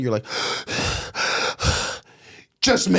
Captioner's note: breathing heavily